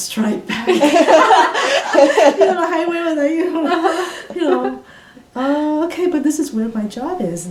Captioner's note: all laugh